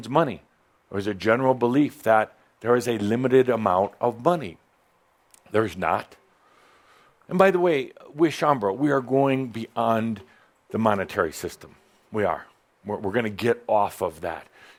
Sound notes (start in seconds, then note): none